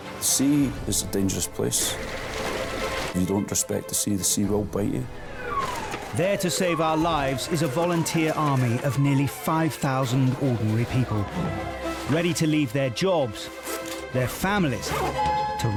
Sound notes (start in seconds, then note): 2.2 gentle music; 5.5 siren blaring